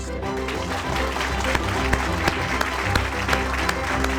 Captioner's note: audience clapping